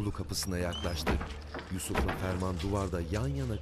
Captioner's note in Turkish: Kapı kapanma sesi